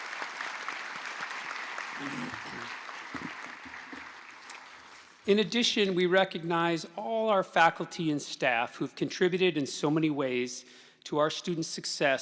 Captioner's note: applause